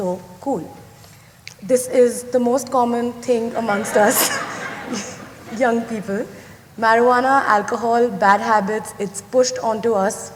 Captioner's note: laughter